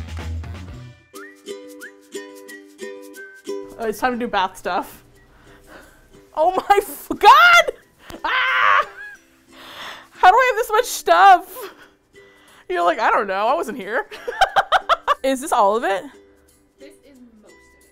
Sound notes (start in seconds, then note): 14.0 laughs